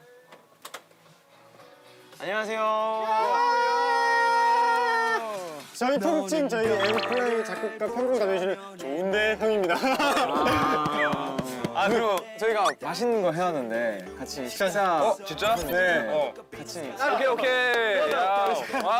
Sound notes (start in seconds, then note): 3.2 loud cheering